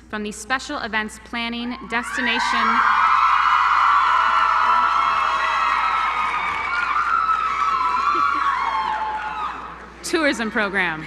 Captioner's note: applause